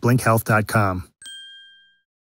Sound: bell rings

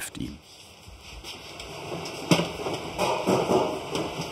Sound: rustling

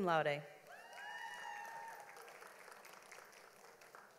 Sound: audience applauds

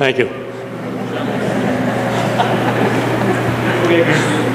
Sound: laughter

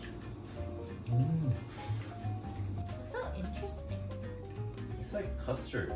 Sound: slurp slurp sound

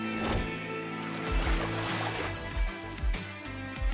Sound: water splashing

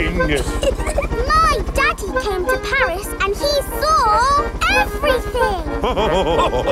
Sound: chuckles; all laughing

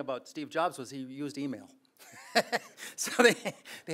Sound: laughs

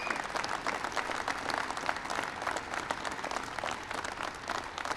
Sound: applause

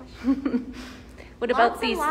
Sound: laughs

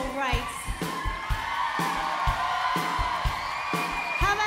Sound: crowd cheers

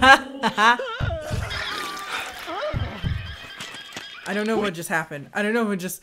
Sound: laughing; llama alarm cries; man screaming

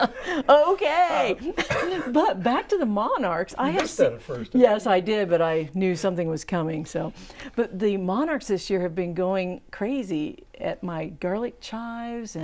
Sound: laughing

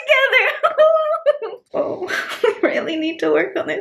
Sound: chuckling

